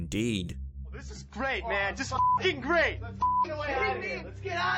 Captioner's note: beep